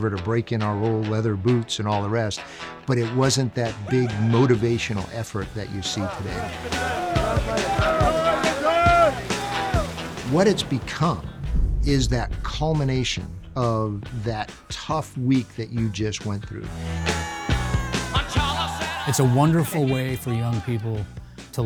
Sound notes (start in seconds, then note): 6.9 rooks chattering; 6.9 upbeat music; 17.0 upbeat music continues